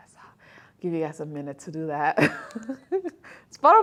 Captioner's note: laughter